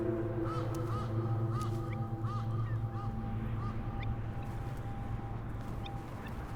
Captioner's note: ominous music; ravens cawing